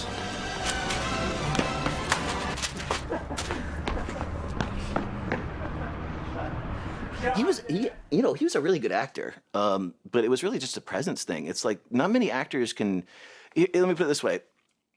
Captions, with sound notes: (melodic orchestral music) (laughing) - You know, he was a really good actor, but it was really just a presence thing, it's like not many actors can, let me put it this way,